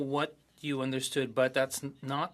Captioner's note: speaking French